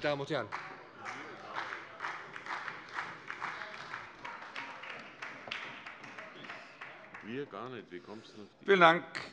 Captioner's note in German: Beifall bei der SPD